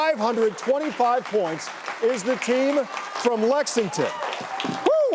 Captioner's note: audience clapping